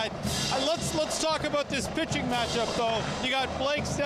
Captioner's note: cheering